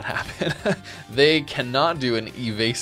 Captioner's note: laughs